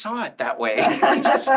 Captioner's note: all laughing